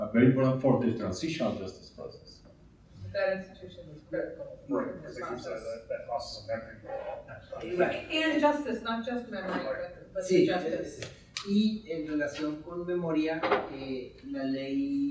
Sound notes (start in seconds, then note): 7.4 distorted speaking; 11.0 speaking in Spanish